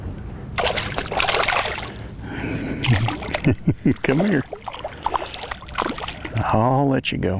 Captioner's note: chuckles